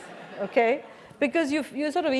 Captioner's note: laugh